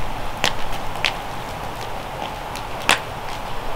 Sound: fire crackling

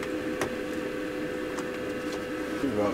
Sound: heater blower

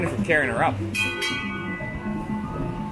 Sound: rings the bell

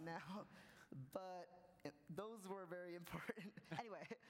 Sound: laughs

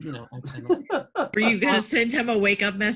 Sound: laughs

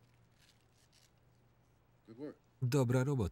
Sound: velcro ripping

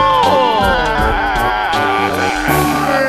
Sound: autotuned cry

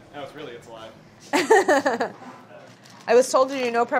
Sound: laughing

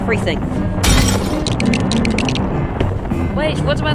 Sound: glass Shatters; Lego Building Noise

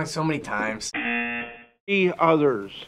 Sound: buzzer

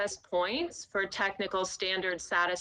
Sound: audio distortion

